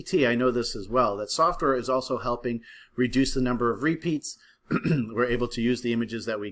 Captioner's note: cough